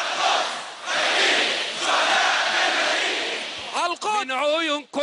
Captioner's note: crowd chanting slogan